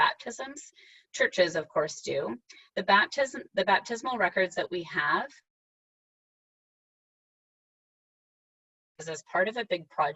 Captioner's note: sound missing